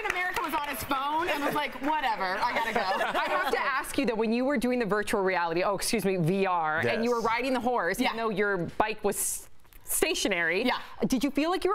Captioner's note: applause